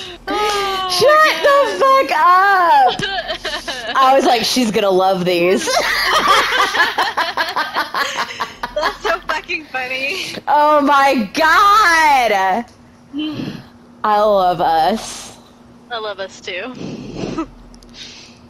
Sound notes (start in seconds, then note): 5.7 both of us laughing hard again